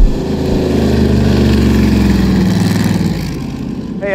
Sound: car speeding

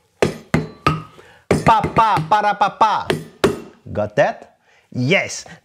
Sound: vocalizes rhythm

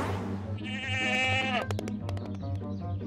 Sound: bleating

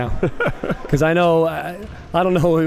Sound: laughing

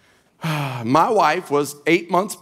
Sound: exhaling

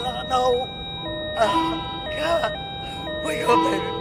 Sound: machine beeping continues

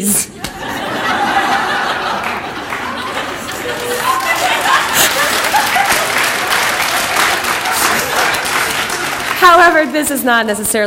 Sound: audience laughter and clapping

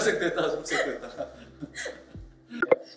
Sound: laughs

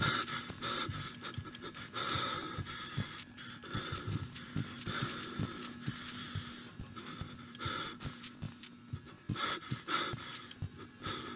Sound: heavy Breathing

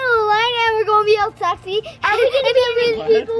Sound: laughs

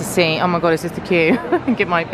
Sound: laughing

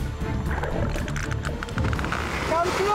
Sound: rapid clicking

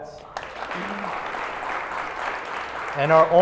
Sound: applause

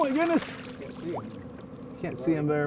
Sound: fish splashing

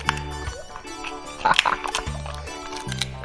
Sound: laughs

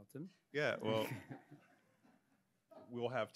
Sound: laughs; audience member laughs

